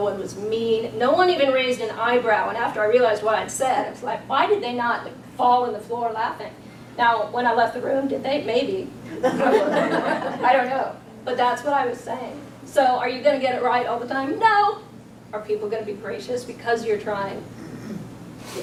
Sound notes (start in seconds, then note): 9.1 audience laughs